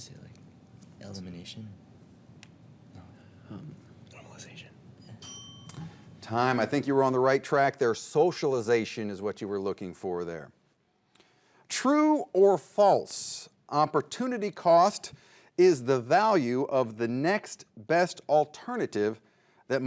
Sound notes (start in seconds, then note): 5.0 bell dings